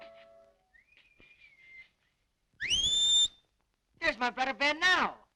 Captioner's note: whistling